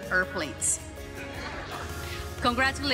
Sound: laughter

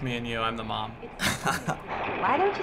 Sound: chuckles

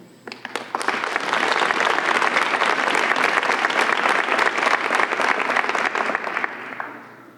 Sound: applause

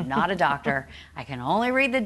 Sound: laughing

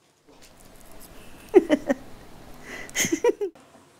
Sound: laughing

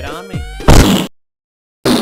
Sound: kiss

